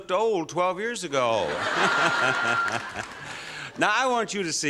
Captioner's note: laughter